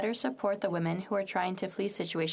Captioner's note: speaking French